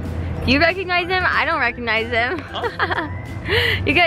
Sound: laughs

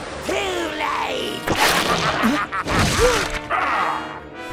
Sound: maniacal Cackling

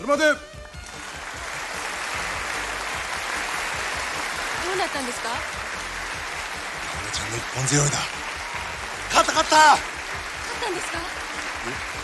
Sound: applause

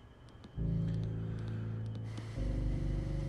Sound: taps cards

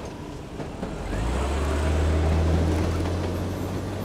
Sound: train rattling; engine whirring

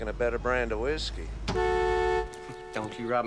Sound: horn blares

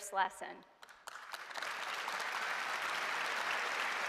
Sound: applause

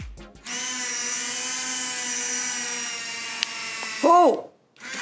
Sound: machine whirs

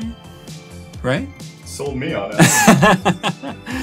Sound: laughing

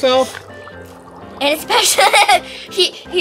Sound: assistant chuckles

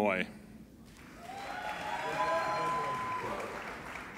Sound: applauding

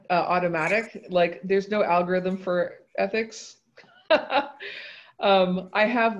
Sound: laughs

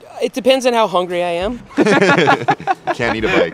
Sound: laughs

